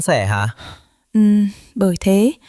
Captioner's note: sigh